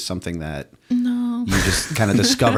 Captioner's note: laughter